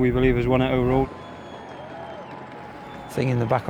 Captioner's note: crowd cheering